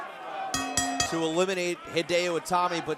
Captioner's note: bell rings